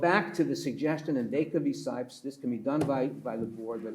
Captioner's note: pats table